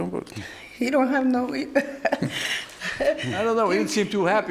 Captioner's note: laughing